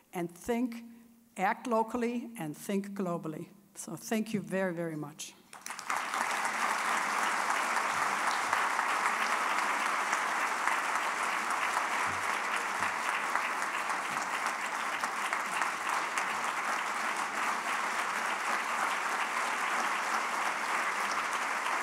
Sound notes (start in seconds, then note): 6.1 applause